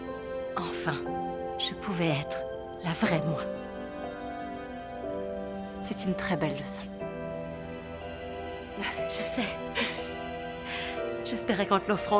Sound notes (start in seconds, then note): 9.8 chuckling